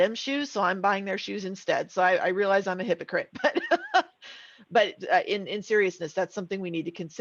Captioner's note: laughing